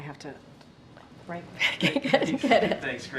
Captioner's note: laughs